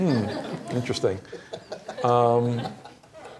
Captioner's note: laughter